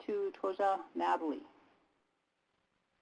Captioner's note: native language spoken